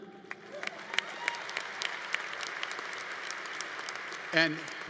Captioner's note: audience applauding; audience cheering